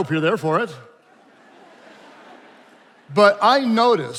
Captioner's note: attendees laughing